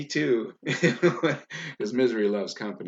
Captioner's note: laughs loudly